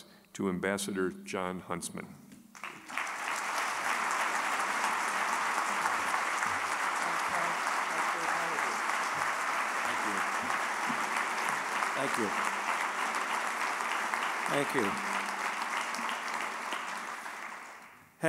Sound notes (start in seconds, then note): 3.2 applause